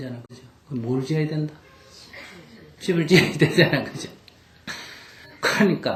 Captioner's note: laughter